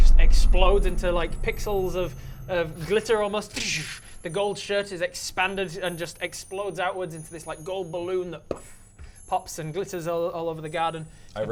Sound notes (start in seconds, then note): 3.6 dddddsch